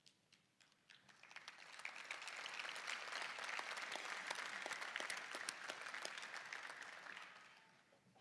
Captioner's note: applause